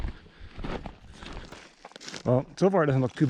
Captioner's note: footsteps thumping